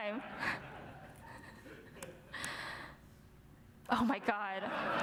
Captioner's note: audience laughs